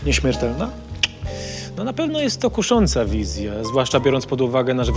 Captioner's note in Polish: cmoknięcie